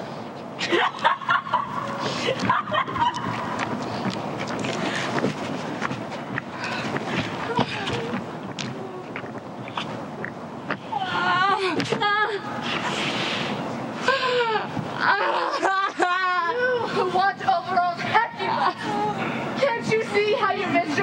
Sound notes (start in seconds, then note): 0.2 laughter; 13.9 moaning